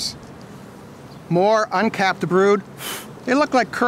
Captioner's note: blowing